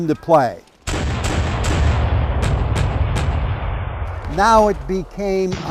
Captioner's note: cannon fire roars